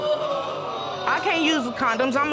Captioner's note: audience exclaiming